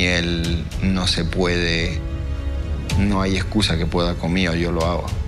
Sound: speaking in Spanish

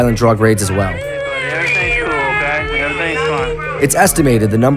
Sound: crying

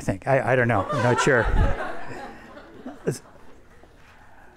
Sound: everyone laughs

